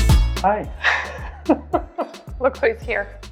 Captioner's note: laughs